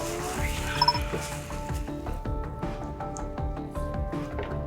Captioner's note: device beeping; gentle music continues